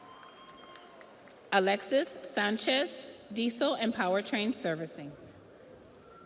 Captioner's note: audience applauds